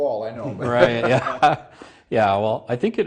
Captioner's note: laughs